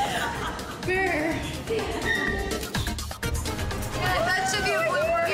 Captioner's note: laughs